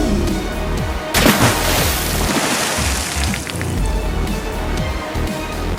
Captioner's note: Raphael splashes